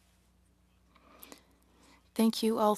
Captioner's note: speaking French